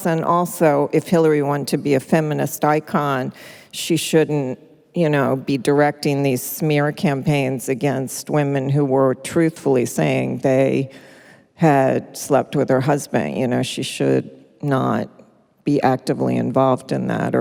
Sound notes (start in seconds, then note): none